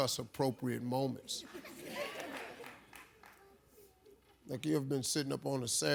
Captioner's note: audience laughs